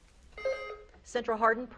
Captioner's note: beep buzzing